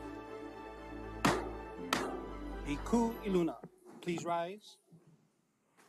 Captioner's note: gavel bangs twice